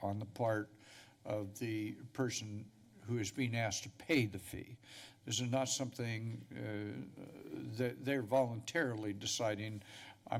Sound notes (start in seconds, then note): none